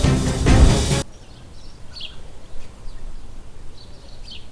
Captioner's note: birds chirping